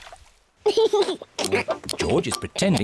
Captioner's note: laughs